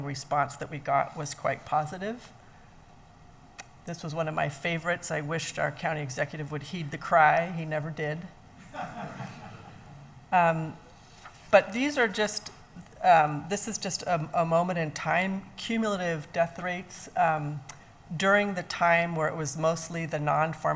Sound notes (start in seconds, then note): 8.7 laughs